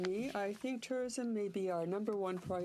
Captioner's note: speaking french